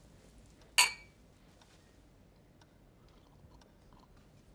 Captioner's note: glasses clink